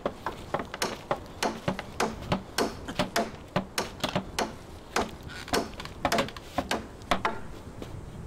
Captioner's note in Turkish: Kütük yontma sesleri; Çekiç sesleri